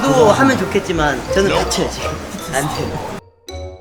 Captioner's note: haha